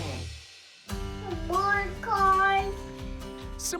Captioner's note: babbling